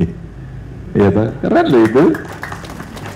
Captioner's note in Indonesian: tepuk tangan